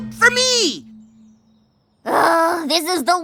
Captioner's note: groans